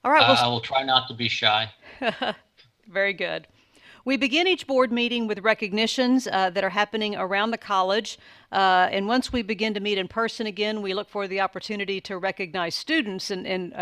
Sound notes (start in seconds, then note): 2.0 chuckles